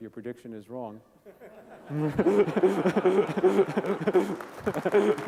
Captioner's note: laughter and applause